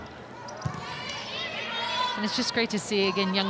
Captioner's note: ball thumping